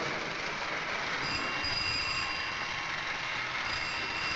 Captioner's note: telephone ringing